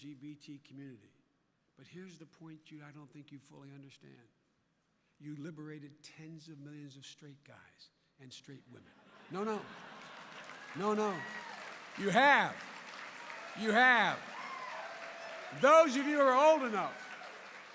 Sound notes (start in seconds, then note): 7.9 laughter and applause; 14.3 applause